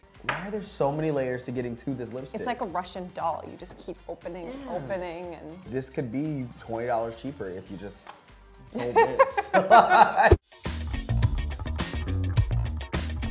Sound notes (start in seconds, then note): 8.7 laughter; 10.7 funky music